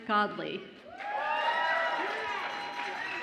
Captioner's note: audience applauds and cheers